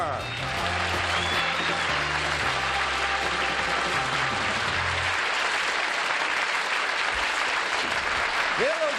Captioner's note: applause